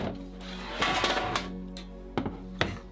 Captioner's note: soft music; utensils clattering; soft music